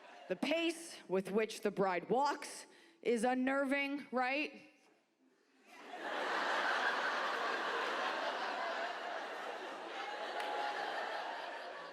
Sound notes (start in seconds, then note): 0.0 audience laughs; 5.7 audience laughs